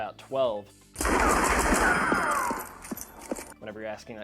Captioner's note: gun shots